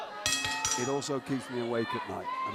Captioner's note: bell ringing